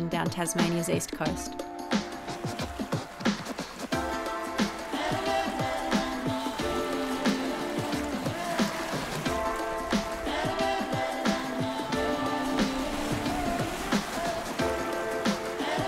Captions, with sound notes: down Tasmania's east coast. (chill music) (waves splashing) (chill music)